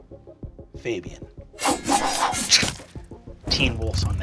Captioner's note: sword slashing